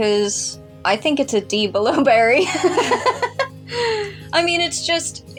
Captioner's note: laugh; chuckle